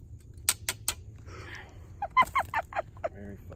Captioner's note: saw clanks on stump; laughs